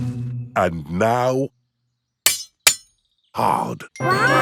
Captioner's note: shovel clanks